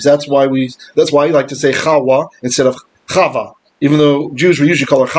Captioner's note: Hebrew